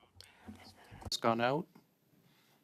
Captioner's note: speaking French